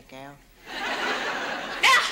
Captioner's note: audience laughs